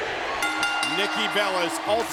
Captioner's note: bell ringing